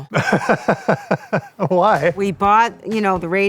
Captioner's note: laughs